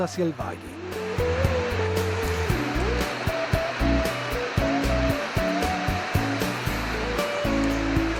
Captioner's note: sound of water falls